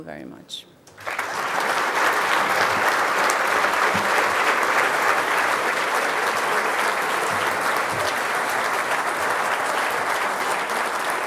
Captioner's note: applause